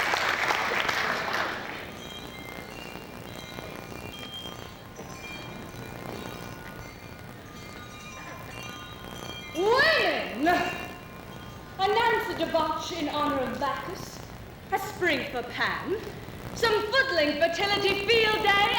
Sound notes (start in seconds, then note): 2.6 chimes